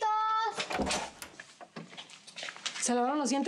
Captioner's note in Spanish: ruido al abrir